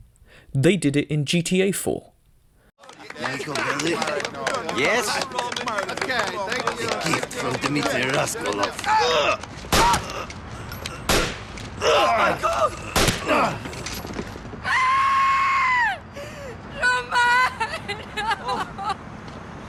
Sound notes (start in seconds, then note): 11.0 gunshot; 12.9 gunshot